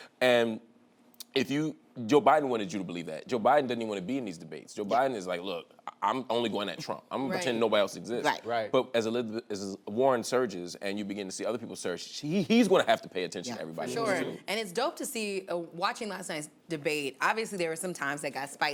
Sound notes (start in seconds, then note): none